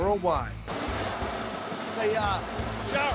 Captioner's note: steam blowing